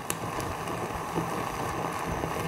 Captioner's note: blazing sounds